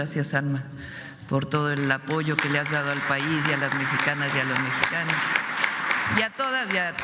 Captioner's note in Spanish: aplausos